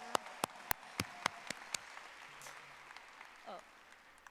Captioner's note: audience applauding